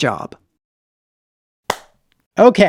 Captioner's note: claps